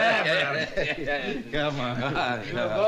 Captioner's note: both laughing